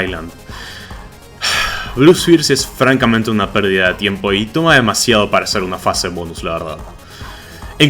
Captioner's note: sigh